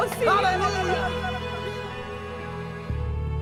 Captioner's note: tongues